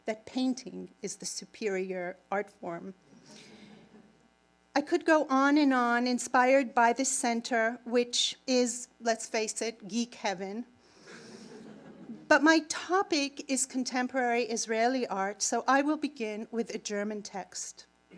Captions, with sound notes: that painting is the superior art form. (audience laughs) I could go on and on inspired by the center, which is, let's face it, geek heaven. (audience laughing) But my topic is contemporary Israeli art. So I will begin with a German text.